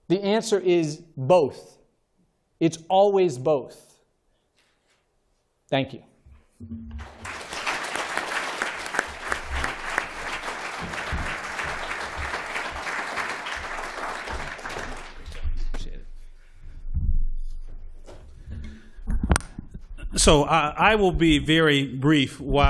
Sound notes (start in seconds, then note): 7.0 applause